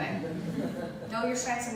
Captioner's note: light laughter